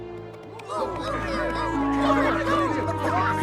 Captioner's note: all talking excitedly